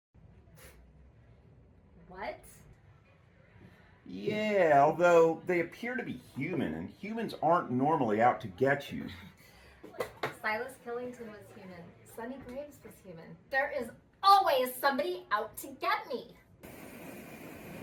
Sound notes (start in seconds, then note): none